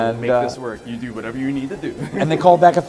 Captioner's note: laughs